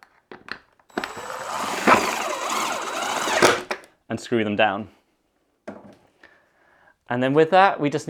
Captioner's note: drill Sound